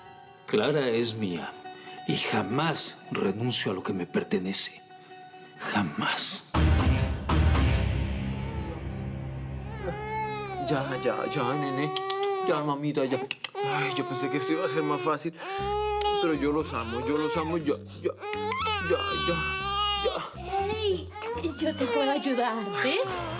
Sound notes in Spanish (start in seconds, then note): 10.6 Llanto del bebé; 13.2 Chasquido bucal; 13.5 Sigue llorando; 20.0 Sigue llorando